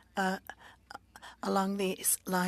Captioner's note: speaking French